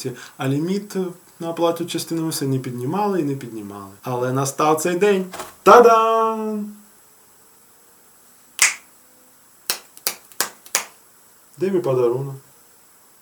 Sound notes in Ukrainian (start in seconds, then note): 8.6 клацає пальцями